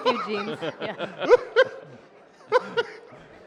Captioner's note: laughter